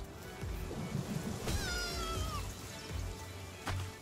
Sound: Lamball crying

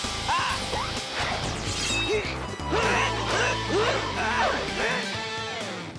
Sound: grunting

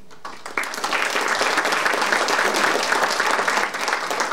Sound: audience applauding

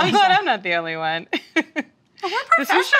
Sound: laughing

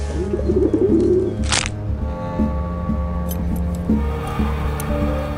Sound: neck snapping; light dramatic music

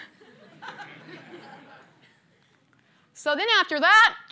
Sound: laughter

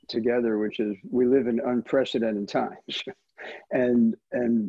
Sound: chuckles

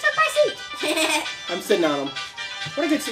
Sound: chuckles

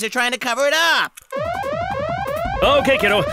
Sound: alarm blaring

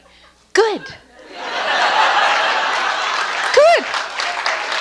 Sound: audience laughs

